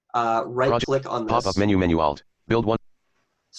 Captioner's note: computer Voice